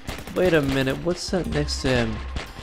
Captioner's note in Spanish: disparos